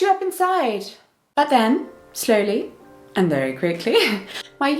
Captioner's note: laughs